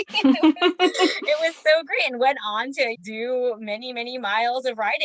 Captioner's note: laughs in delight